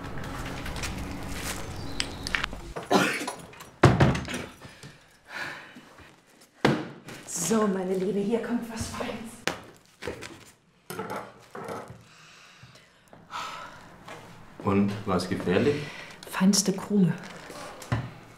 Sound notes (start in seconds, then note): 2.7 coughs